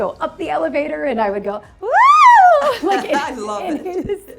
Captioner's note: screams